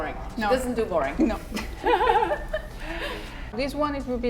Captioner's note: laughs